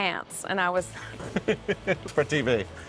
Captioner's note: laughing